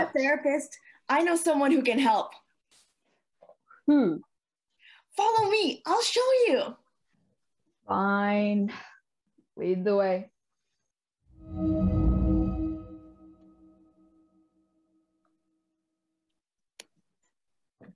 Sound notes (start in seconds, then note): 11.4 ethereal Woosh